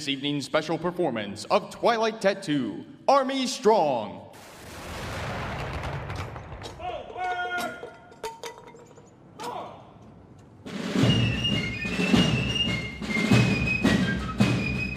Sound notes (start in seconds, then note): 4.4 gunshots; 10.6 drums and fifes playing